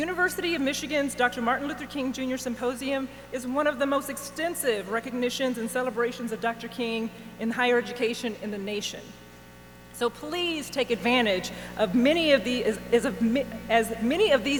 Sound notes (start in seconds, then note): none